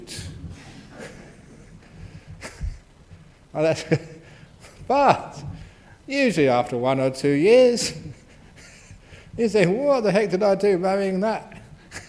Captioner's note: laughs